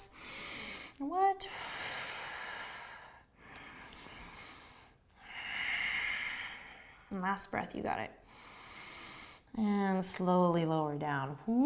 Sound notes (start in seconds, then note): 0.0 inhaling; 1.4 exhaling and inhaling; 8.5 inhaling